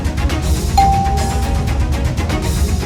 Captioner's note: doorbell ringing